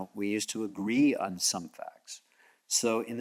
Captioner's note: none